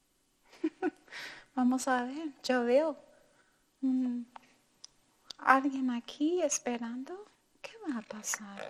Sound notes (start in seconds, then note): 0.5 laughs; 1.5 speaking in foreign language